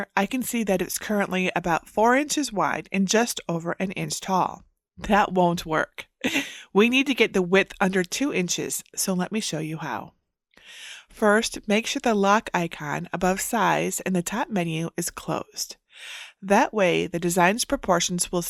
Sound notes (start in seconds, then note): 6.2 chuckles